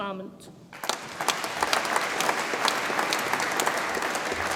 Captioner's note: audience applauds